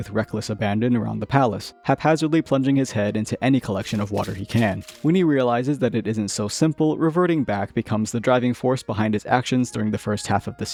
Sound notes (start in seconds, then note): 3.9 splashing